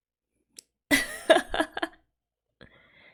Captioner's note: laughs